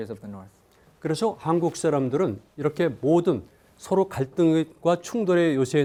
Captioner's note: speaking in Korean